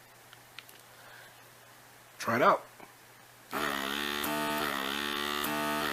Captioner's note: aspirator buzzes